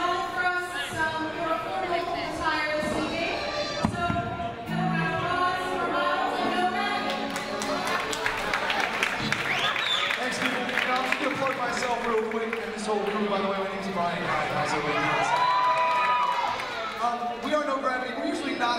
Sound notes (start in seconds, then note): 7.6 audience applauds; 16.0 audience applauds